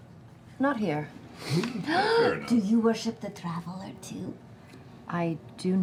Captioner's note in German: schnelles Einatmen